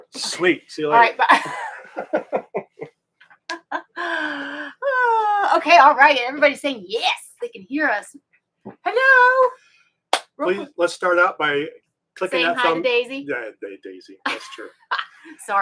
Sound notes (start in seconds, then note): 1.0 both laughing